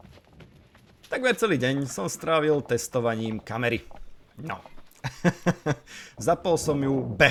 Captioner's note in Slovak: smiech